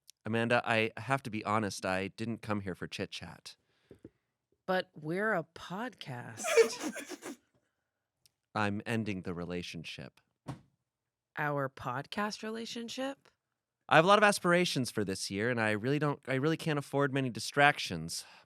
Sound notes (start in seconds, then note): 6.4 laughs